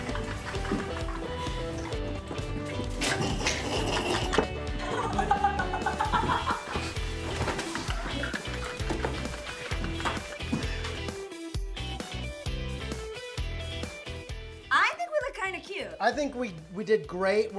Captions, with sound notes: (laughing) (laughing) (upbeat music) - I think we look kinda cute. - I think we did great.